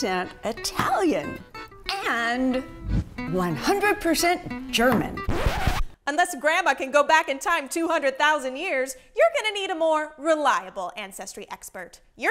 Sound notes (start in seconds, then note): 5.1 record scratch